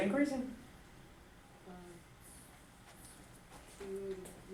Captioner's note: voiceover